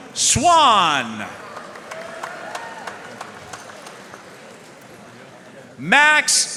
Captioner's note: audience cheering and applauding